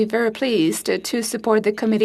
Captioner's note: speaking FRENCH